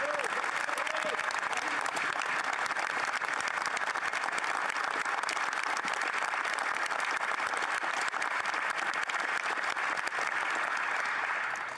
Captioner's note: applause